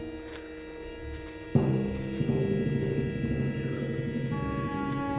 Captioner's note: Tri-corder scanning sound